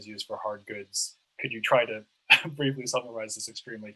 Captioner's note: laughs